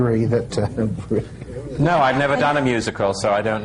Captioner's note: laughs